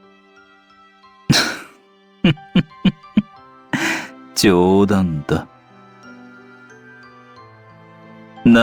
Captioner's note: chuckling